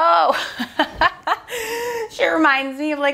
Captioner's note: laughing